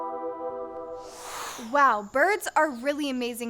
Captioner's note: air whooshing